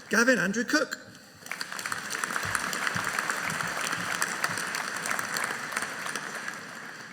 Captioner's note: audience applauding